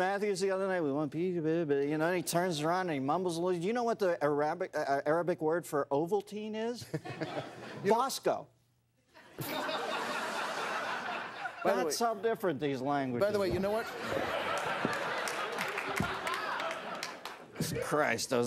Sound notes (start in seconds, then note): 9.1 laughter; 15.3 laughter